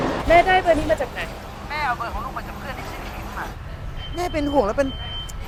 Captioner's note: street noise